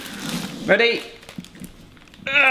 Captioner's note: groans